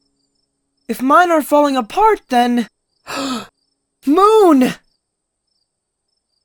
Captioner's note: gasp